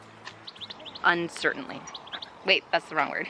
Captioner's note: birds singing